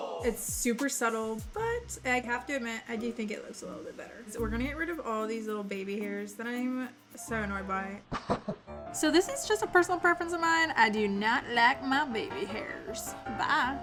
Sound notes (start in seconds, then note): 8.2 laughs